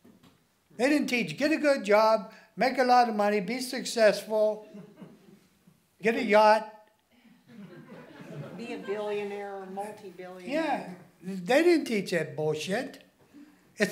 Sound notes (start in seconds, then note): 7.4 laughing